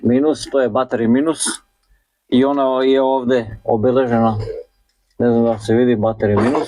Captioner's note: coughs